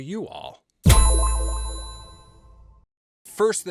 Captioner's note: sharp tone echoing